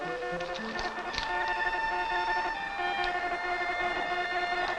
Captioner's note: morse code beeping